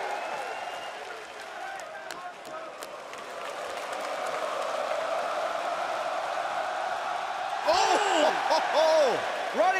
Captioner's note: crowd cheering